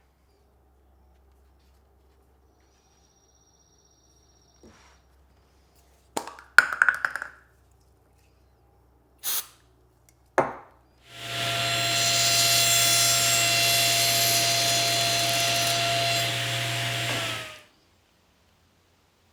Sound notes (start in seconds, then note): 9.2 product sprays; 11.0 saw whirs